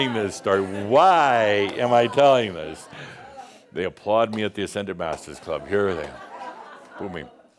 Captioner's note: Adamus chuckles; some chuckles